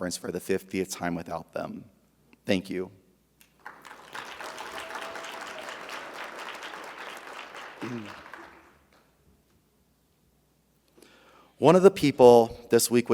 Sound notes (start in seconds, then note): 3.5 audience applauding; 3.6 audience cheering